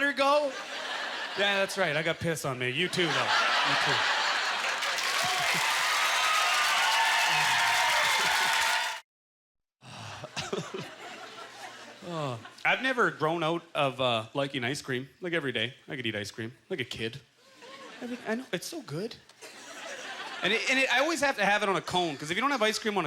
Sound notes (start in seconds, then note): 4.1 applause; 4.4 audience laughter; 10.1 laughing